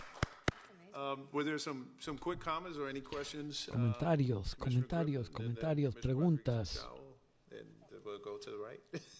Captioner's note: applause